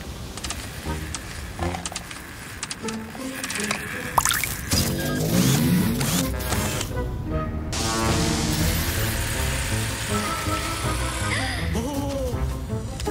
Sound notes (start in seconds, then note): 0.0 sound of rain and robots; 4.0 sound of electricity; 6.8 sound of robots